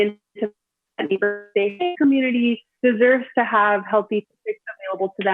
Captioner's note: audio distorts